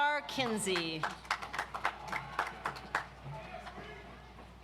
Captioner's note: audience applauds